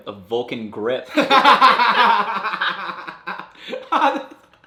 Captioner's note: laughs